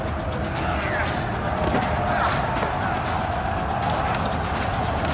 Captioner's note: battle cries and battle sounds